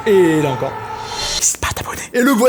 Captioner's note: whispers